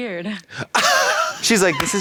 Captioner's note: Katya gasps